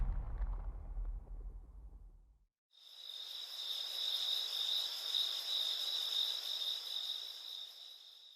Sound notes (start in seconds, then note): 2.7 crickets chirping